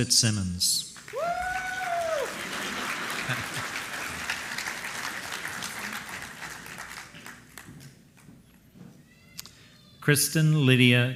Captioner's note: applause